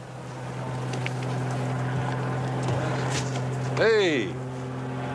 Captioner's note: plane rumbling